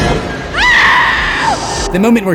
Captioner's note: screams